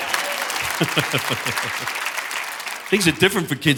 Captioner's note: audience applauding; chuckling